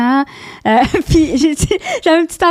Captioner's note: in french; laughing; in french